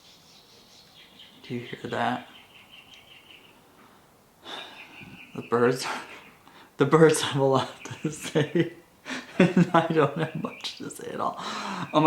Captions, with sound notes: (birds chirping) - Do you hear that? (birds chirping) The birds have a lot to say and I don't have much to say at all.